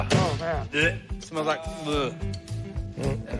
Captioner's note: retches